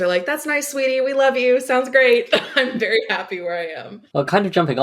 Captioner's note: laughing